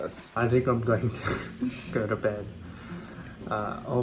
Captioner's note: chuckling